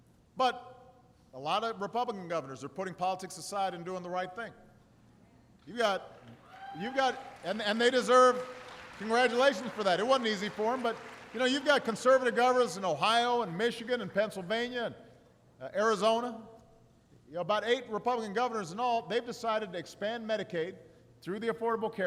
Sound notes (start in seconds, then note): 6.0 applause